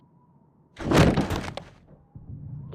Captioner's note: thud